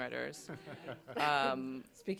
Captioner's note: laughter